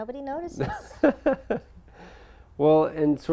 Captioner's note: laugh